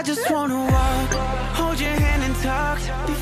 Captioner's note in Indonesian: Tertawa